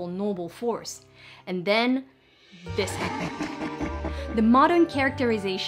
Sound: evil laugh

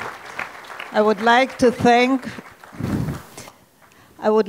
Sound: audience clapping

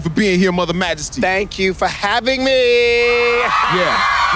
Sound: chuckles

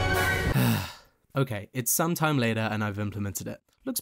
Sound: sighs

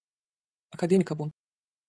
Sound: fast Pronunciation

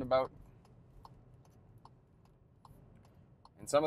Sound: car signal ticking

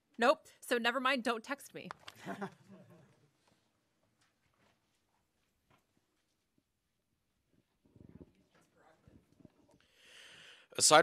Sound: laughter

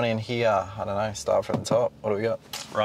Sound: hand bangs

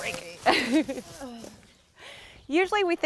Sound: laughing

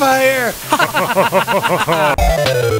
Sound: everyone else laughs

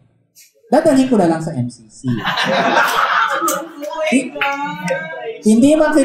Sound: laughter

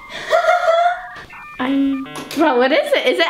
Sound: laughs

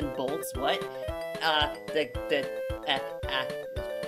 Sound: stammering

